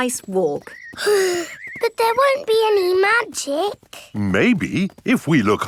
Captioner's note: sighs